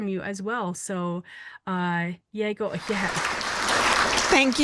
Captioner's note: clapping